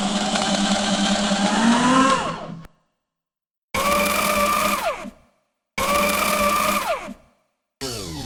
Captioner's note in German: Aktenvernichtergeräusch